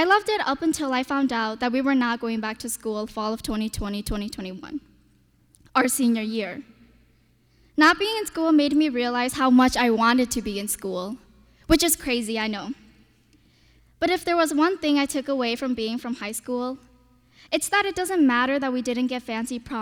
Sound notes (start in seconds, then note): none